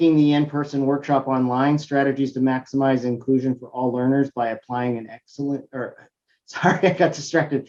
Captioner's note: laugh